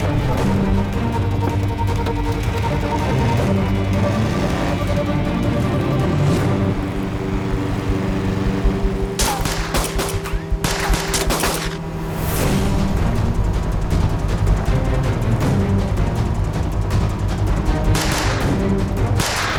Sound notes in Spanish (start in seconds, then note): 7.1 Ruido del aerobote; 9.1 Disparos; 17.9 Disparos